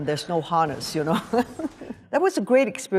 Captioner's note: laughs